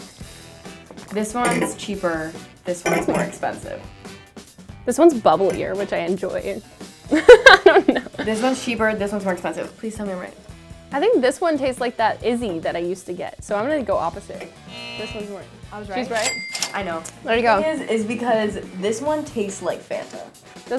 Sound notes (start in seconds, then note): 7.1 laughter; 14.6 buzzer; 16.1 cash register